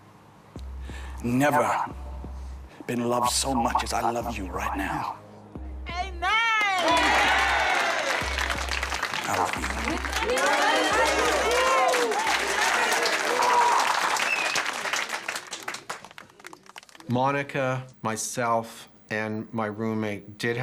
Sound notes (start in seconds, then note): 7.2 cheers and applause; 10.9 crowd